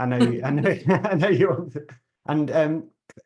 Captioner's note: chuckles